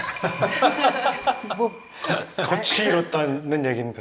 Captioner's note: bringing back memories of those times with a sigh